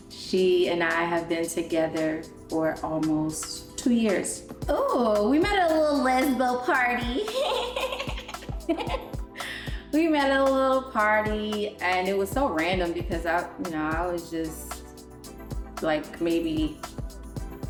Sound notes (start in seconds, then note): 7.3 laughs